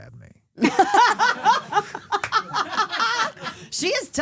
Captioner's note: laughing